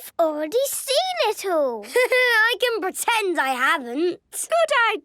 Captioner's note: Danny laughing